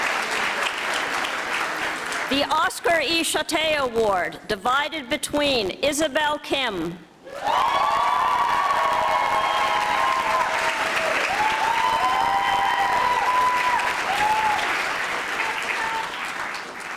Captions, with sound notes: The Oscar E. Schotte Award, divided between Isabelle Kim, (audience applauding)